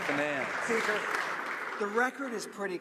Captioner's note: some Applause